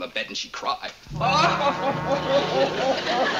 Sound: wails loudly

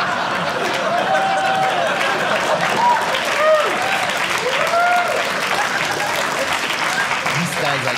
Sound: audience laughing; audience applauding

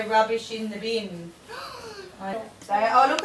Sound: child gasps

